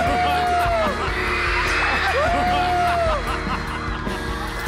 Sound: the students clap and cheer

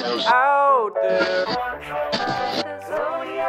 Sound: radio tuning static; radio tuning static

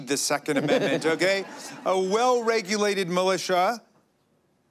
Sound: laughter

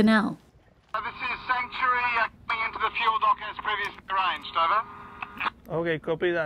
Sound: man speaking on radio call

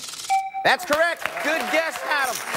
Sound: chime

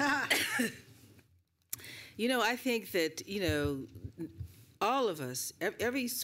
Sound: laughter

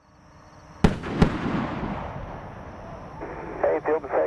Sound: two sonic booms

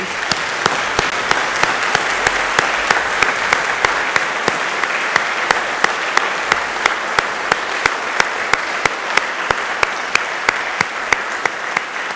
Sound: applause

